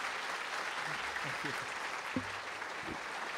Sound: applause

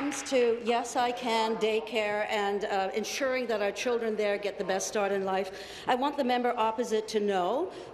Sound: applause

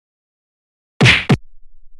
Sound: punch Sound

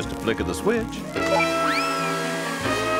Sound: humming

